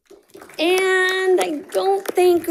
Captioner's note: audience applauding